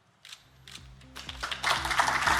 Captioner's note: camera clicking; audience applauding